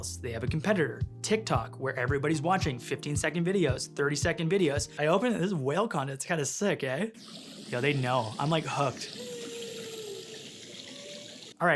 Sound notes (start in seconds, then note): 7.3 water sloshing; 8.6 whale vocalizing